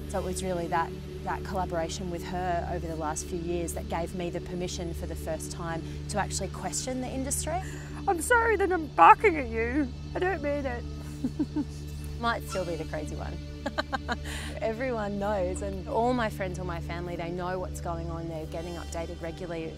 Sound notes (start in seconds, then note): 13.6 laughs